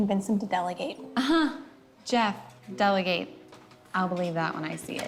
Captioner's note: laughs